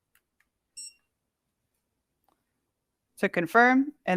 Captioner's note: scanner beeps